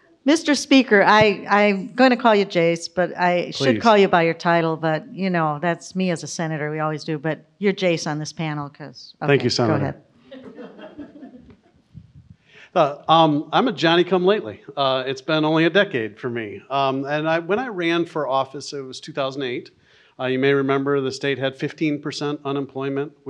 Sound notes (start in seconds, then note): 10.3 audience laughs